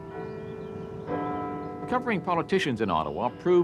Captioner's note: bells chiming